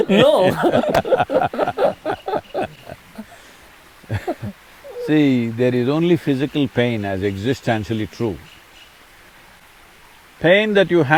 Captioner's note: both laugh